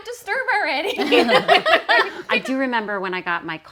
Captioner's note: group laughing